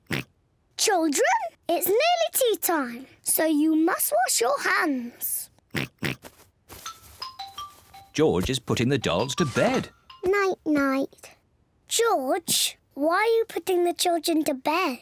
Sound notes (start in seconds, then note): 5.7 oinks